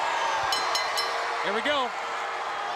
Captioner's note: bell ringing